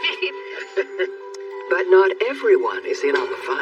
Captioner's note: all c chuhuckliling